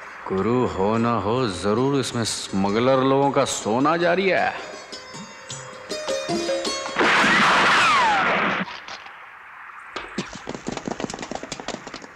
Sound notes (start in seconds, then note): 7.0 gunshot